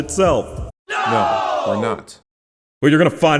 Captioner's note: audio of friends yelling “no we’re not